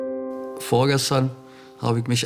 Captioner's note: German